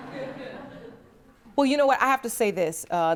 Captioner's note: scattered laughter